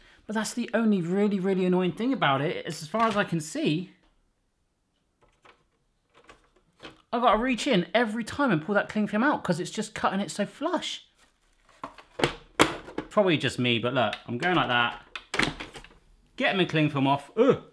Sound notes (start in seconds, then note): none